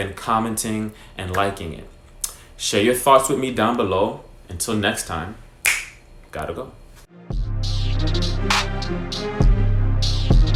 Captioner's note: snaps fingers